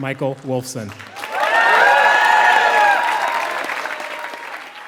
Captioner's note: applause